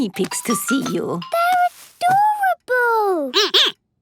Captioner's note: squeaking